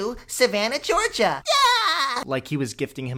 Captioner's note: Spongebob Laugh